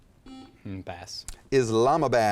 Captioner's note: buzzer chimes